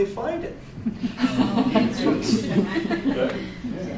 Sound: audience laughter

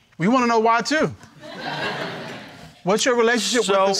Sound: crowd laughing

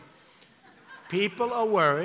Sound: laughter

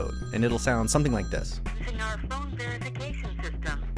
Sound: voice on phone

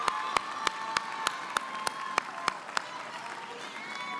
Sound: applause

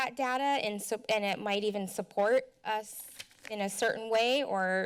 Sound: flipping pages

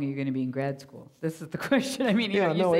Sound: laughing

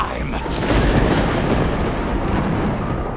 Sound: thunder rumbles

